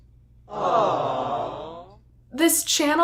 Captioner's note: aawww Sound Effect